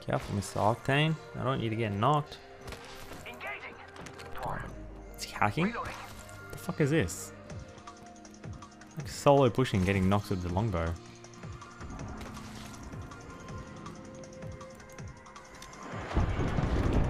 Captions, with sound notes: careful mister octane i don't want you to get knocked *mumbles* god... is he hacking? the f*** is this? like solo pushing getting knocks with the longbow